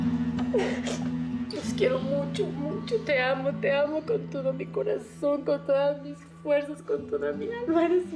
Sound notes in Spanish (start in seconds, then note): 0.4 sollozos